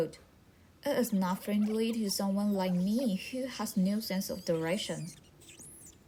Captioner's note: laughs